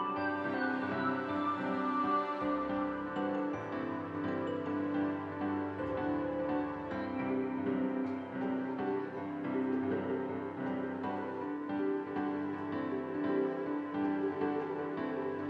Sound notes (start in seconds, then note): none